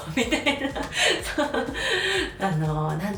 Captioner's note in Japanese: 笑い